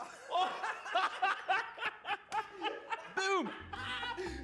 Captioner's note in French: rires